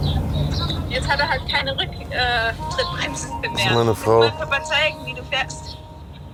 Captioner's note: woman on the phone